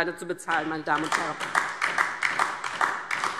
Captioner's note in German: Beifall DIE LINKE und vereinzelt SPD